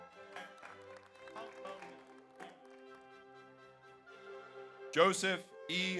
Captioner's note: audience cheers; audience applauds